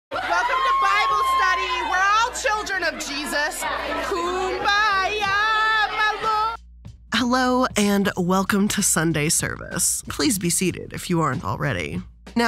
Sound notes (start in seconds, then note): 0.1 people screaming